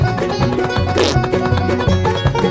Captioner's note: toot!